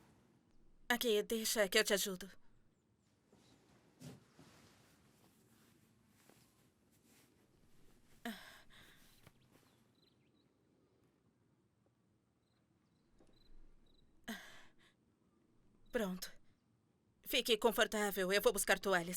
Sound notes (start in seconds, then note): 8.2 sarah gasps